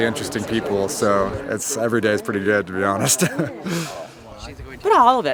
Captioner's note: chuckles